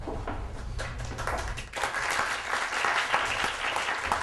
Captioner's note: audience applause